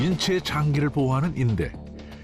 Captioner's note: voiceover